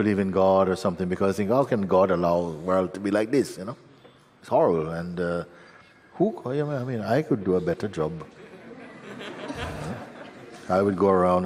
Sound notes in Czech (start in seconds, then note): 8.3 smích